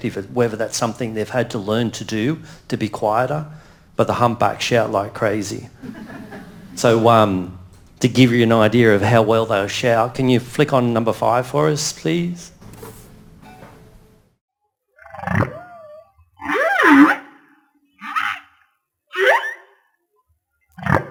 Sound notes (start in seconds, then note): 15.0 whale vocalising